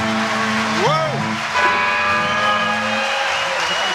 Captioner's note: applause